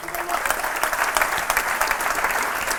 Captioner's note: applause